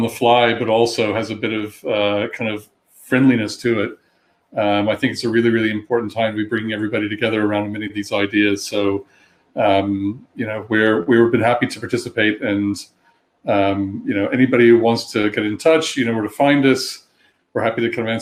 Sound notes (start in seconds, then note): 4.3 erm; 9.5 erm